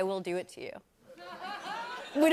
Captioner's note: laughter